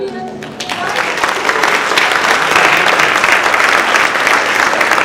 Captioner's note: audience applauding